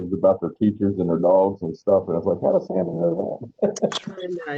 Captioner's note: laughter